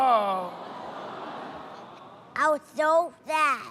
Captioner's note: audience "Aww"s